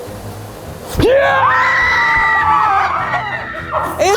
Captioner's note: screams of terror